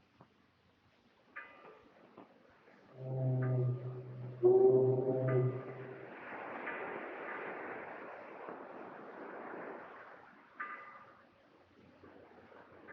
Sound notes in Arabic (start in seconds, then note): 3.0 رنين جرس العوامة; 3.0 صوت قارب